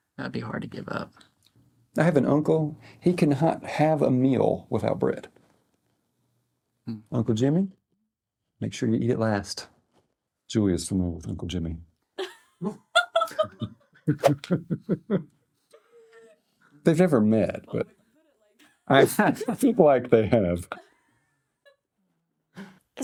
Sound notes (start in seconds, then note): 15.8 laugh